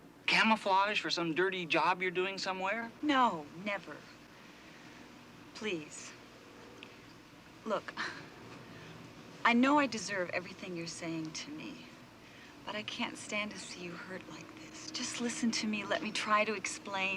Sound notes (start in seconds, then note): 8.0 sighs